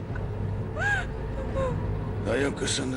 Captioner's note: whimpers